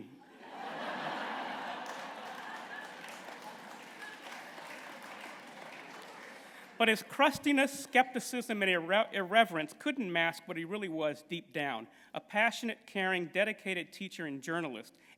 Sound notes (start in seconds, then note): 0.2 laughter; 2.5 applause